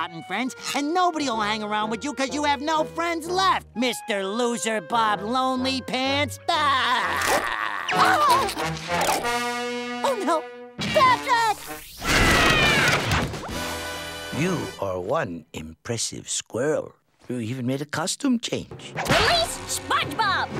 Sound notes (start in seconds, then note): 6.7 laughing; 6.8 shrieking